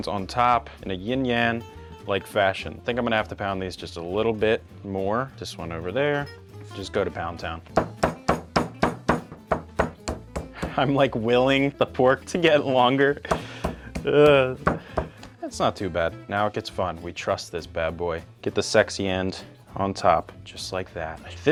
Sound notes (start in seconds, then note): 7.7 hand thudding; 7.9 mellow music